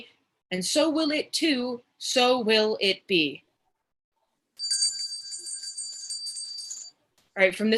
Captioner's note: bell rings